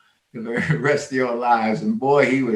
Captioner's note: chuckles